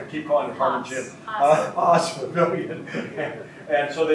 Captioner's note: laughs